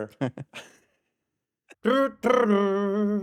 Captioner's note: laughs; humming